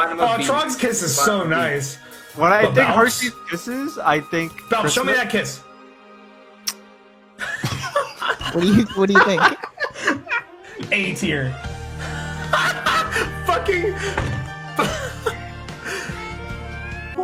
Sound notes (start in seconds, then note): 6.6 quiet kiss noise; 7.4 quiet laughter; 15.1 fades off into laughing